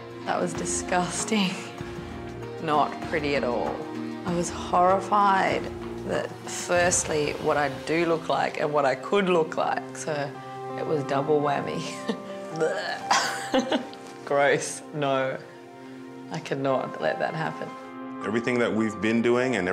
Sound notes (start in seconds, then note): 12.5 gagging